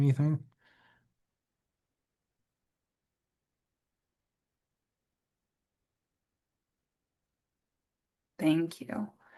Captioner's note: silence